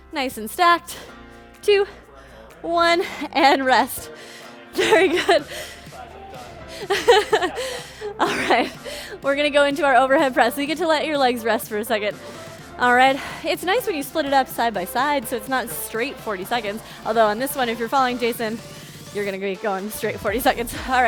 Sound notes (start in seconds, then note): 6.7 laughing